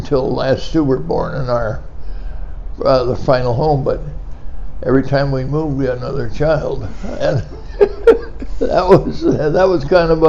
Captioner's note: laughing